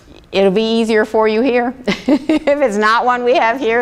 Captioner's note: laughs